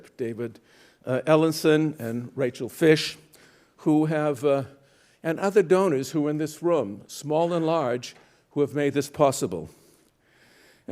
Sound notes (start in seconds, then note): none